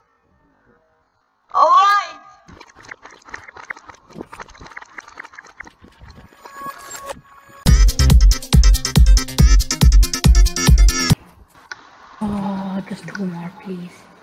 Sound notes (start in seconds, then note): 2.4 reversed sounds of grinding for iron; 6.2 reversed sounds of buying stuff